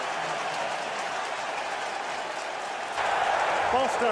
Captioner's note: cheering